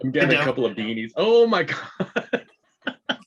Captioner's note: laughing